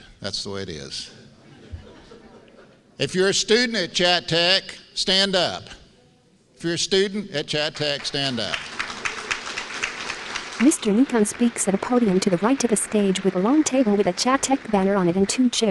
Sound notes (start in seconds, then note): 7.7 applause